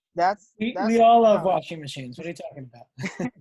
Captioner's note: laughter